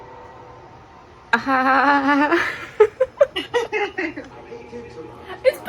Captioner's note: nervous laugher